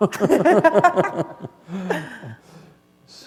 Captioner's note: laughter